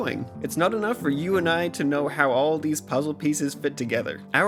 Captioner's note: none